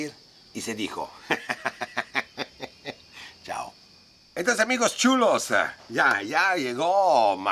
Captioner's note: laughs